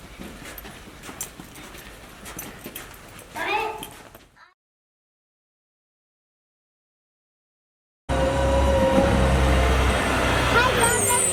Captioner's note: loud truck sounds